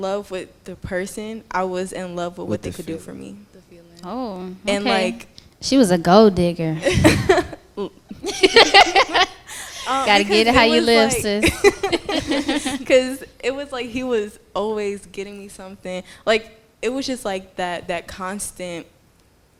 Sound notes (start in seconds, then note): 8.1 laughter; 11.3 laughter